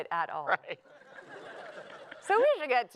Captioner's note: laughter